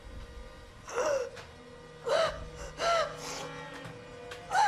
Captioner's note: Maria gasping